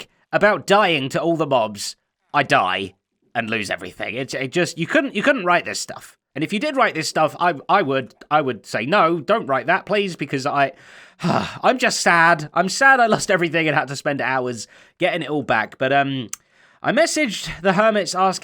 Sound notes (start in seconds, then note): 10.8 sighs